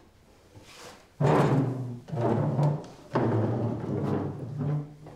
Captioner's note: chairs clattering